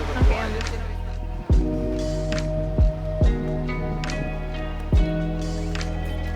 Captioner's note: lively music continues; people chattering